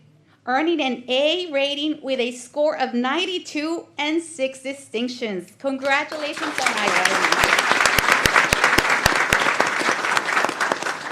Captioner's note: applause